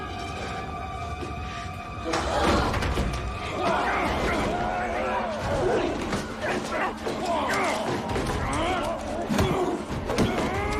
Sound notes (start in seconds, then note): 4.9 all grunting